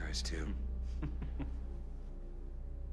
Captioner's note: chuckles